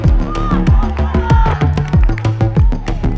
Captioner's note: boys cheer